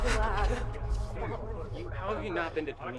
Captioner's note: students chattering